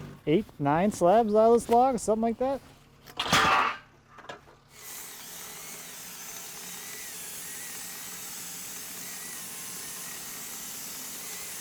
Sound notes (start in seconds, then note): 4.7 saw whirring